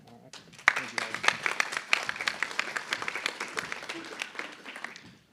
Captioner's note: applause